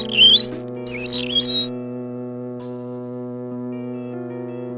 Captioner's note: unnerving violin music; contraption tweets